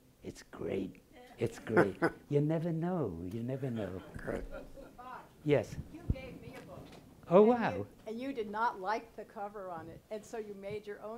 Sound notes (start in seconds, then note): 3.5 laughing